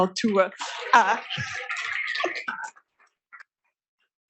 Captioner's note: applause